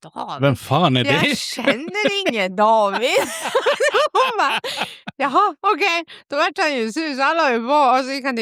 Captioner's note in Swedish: skratt